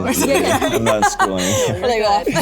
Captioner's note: chuckles; laughs